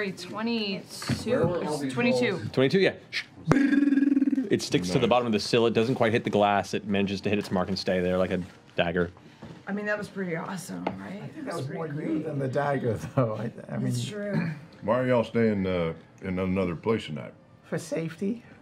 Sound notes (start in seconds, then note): 0.0 singing; 2.4 vibrating impact